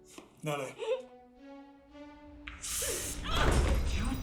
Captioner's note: crying; groaning